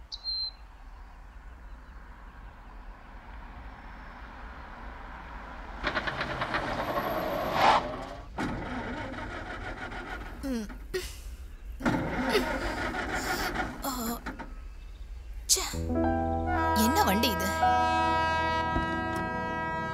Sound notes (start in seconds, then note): 8.4 engine sputters; 15.8 train horn blares